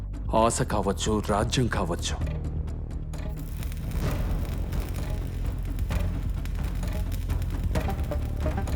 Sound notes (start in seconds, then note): 3.3 welding gun buzzes